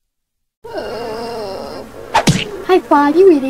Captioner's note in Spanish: gemidos